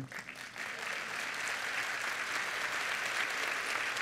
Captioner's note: applause